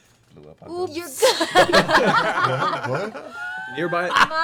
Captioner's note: laughter